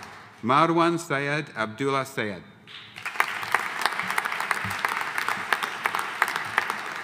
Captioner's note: audience applauding